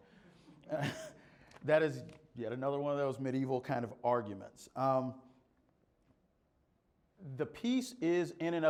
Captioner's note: laughter